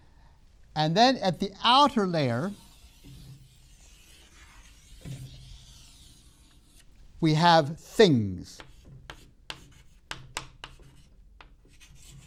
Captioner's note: chalk sounds